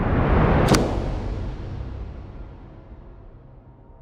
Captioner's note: booming sound